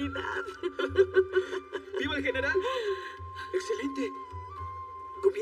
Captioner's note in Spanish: Ríe